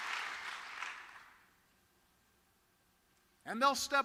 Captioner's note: cheering and applause